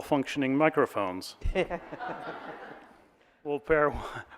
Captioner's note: audience laughing